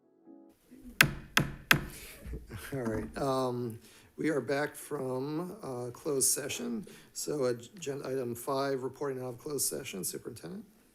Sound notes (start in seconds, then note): 0.8 gavel banging